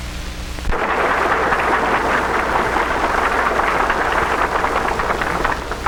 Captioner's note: applause